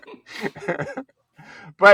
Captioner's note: both laughing